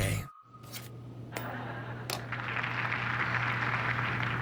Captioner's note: TV clicks on; audience laughter, applause